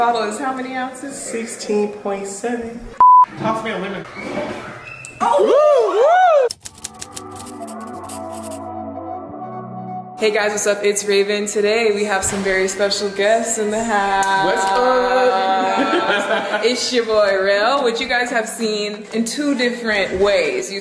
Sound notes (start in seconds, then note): 3.0 beep; 5.1 whooping; 6.6 slow upbeat music playing; 14.7 laughing